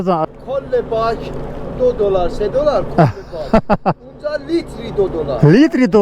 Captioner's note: speaking in Persian